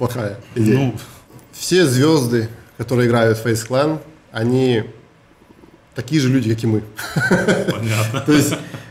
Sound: laughs

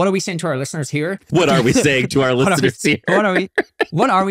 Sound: laughing

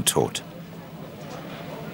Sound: Stimmengewirr

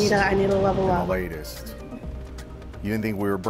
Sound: giggles

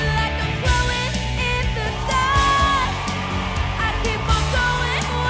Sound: audience screams

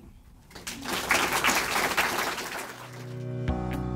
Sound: audience applauding; upbeat music

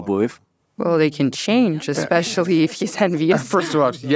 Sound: laughs

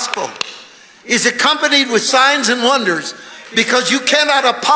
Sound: hands clapping

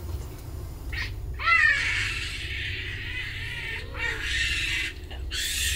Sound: animals screeching

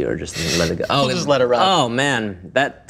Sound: laughing

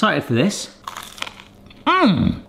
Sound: crunching sounds

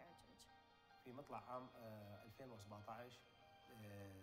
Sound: foreign language

